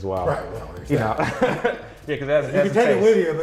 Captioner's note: laughs